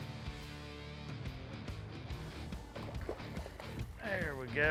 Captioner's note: fish splashing